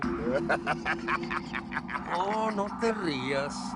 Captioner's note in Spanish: Risas